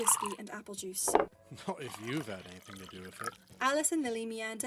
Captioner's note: drink pouring